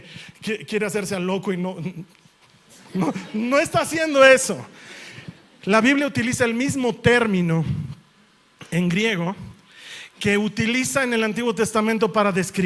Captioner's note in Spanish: risas